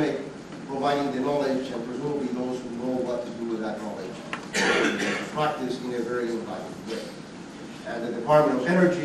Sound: student coughing

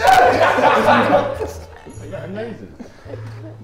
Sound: Sidemen laugh

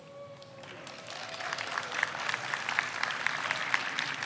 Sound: audience applauds

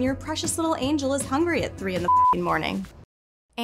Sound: beep

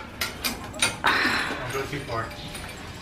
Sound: sigh

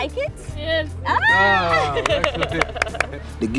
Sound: Forest Whitaker, Tani Austin and patient laughing, Tani clapping

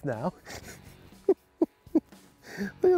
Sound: chuckling

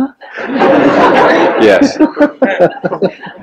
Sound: general laughter

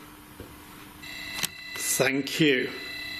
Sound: muffled synthesised noise

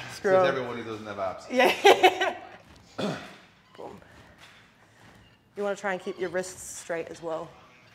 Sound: laugh

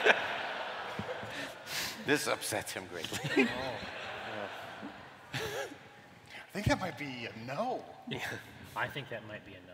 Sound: laughter

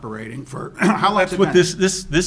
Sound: clears throat

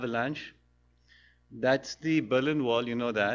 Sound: pause

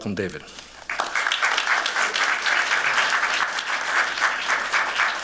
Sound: applause

